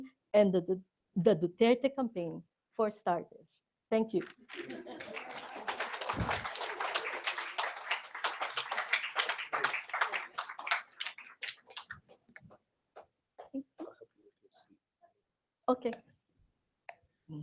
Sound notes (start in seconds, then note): 4.2 applause; 4.6 laughter